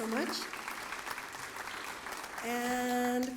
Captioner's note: applause